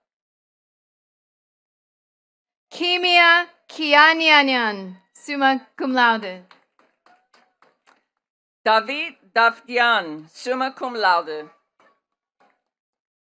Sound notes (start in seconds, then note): 6.2 attendees clapping